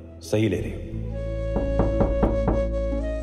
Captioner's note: knocking